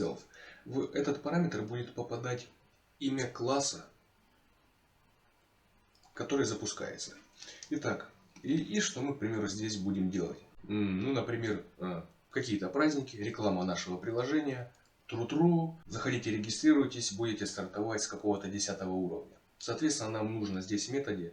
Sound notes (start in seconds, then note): 15.2 exclamation